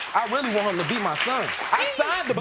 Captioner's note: audience clapping